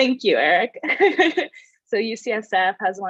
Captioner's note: laughs